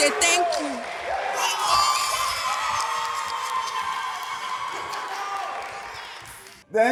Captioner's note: applause